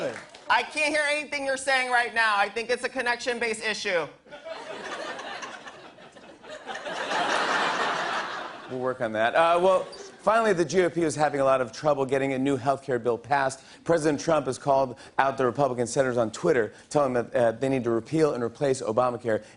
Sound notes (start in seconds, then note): 4.3 laughter